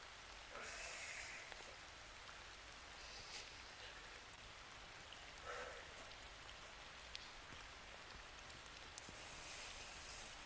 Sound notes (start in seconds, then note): 4.2 rain falling